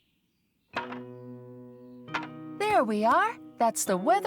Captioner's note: clank, Clank